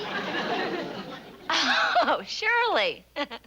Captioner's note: laughing